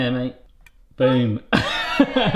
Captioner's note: laughs